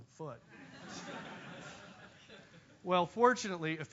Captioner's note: laugh